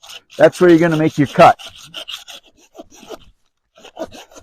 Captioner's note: sawing